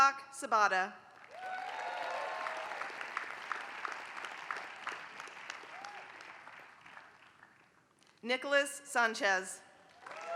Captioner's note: applause; applause